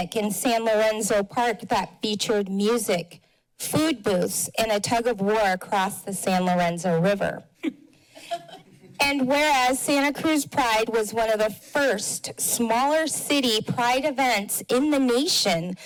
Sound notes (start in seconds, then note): 7.6 chuckles; 8.1 laughs